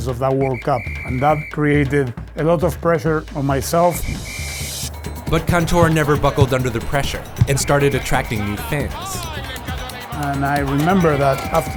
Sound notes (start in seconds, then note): 3.8 whistle blowing; 9.1 announcer yelling in foreign language